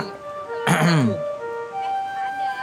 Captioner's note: cough sarcastically